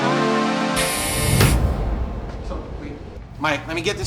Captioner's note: machine buzzing